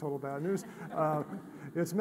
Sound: audience laughing

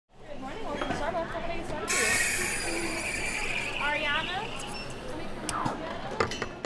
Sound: coffee shop sounds

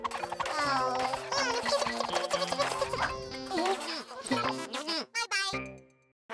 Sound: chattering happily

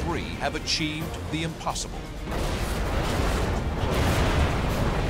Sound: explosions

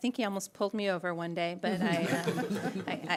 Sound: laughter

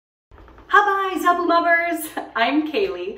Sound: speaking in Ubbi Dubbi

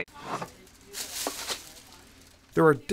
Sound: plastic rustling

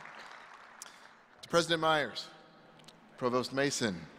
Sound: applause

